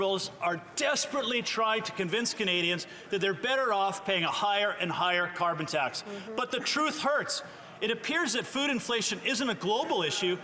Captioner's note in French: voix de l'interprète